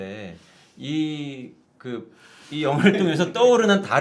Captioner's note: hesitant